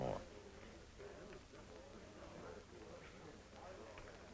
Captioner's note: chatter